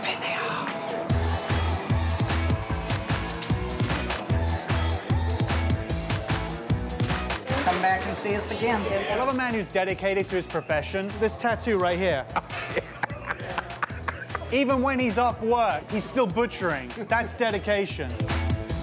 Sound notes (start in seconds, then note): 1.5 upbeat pop music; 12.2 heartily laughs